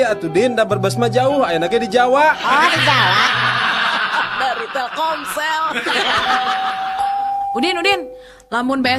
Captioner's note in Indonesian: tertawa